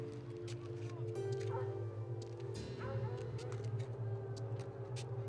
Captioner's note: distant dogs bark